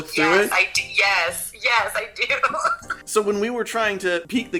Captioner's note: laughter